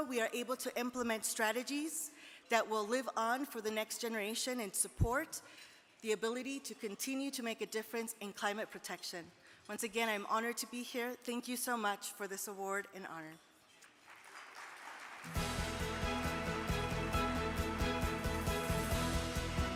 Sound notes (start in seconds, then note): 13.8 audience clapping; 16.9 exciting music